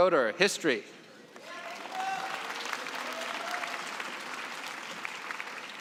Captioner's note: cheering and applause